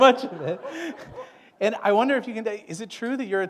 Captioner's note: laughter